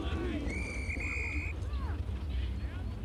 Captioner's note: whistle blowing